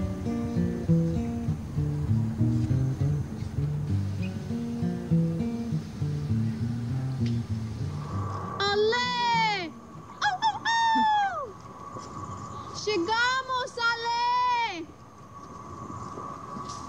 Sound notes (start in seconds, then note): 10.2 exclaiming; 12.9 speaking in foreign language